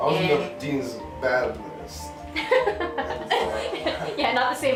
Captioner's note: laughter